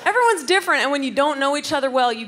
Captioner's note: none